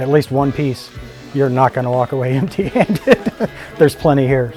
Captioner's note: laughing